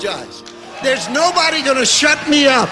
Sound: audience cheers and applauds

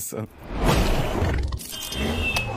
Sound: Traffic

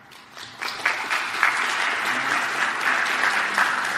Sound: applause

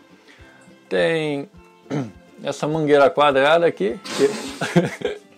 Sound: laughs

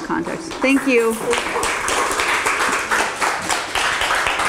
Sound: applause

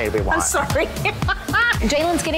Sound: laughs

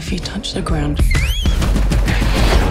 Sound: whistle

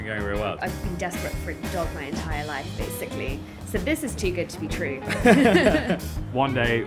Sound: laughing

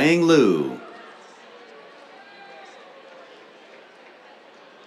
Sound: applause

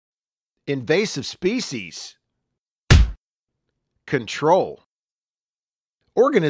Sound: stamp sound

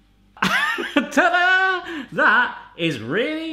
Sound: laughs

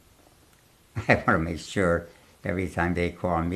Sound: laughs

